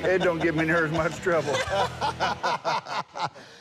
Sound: laughter

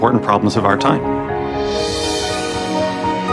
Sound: music soars; musical note swooshes

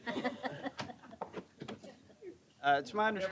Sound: laughter

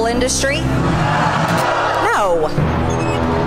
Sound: crowd yelling; dramatic music

